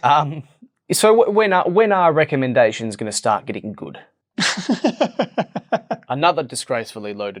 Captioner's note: laugh